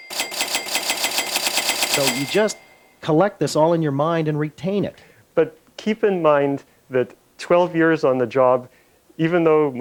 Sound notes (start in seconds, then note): 0.0 cash register bell ringing repeatedly; 0.0 bell ringing loudly, rapidly